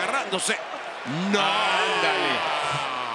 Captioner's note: laugh